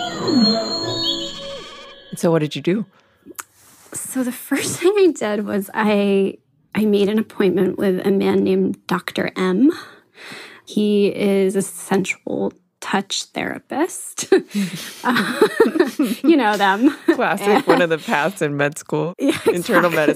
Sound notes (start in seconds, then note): 14.6 both chuckle